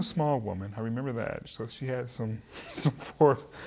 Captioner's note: chuckling